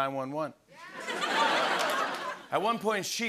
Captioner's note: laughter